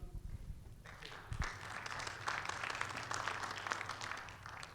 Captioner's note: audience applauds